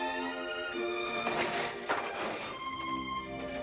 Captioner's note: shade rolling up